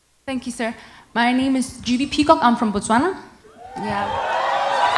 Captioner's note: cheering